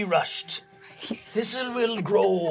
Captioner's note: laughing